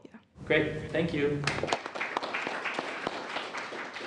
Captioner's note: applause